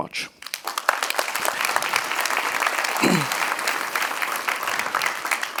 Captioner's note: audience applauds